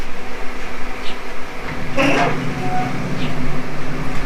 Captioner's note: BBQ squeaks